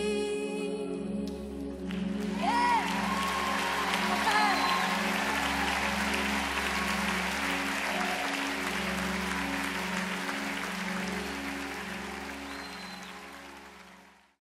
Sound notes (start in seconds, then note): 2.6 cheers